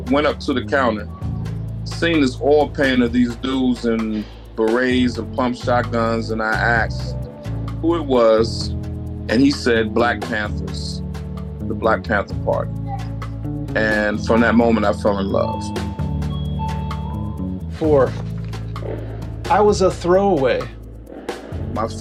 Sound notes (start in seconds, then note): 16.3 store's doorbell ringing